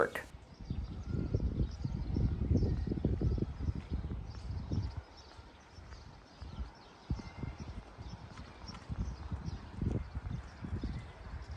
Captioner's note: quiet nature sounds and wind